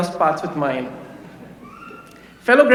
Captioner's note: laughter